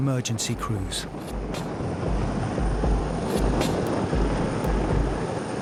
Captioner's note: helicopter droning